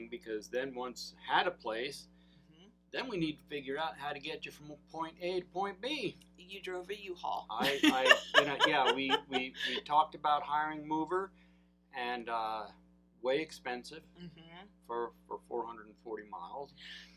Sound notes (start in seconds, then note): 7.6 laughs